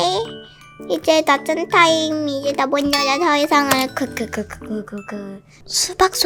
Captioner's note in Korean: 딸깍